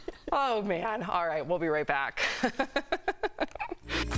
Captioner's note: laughter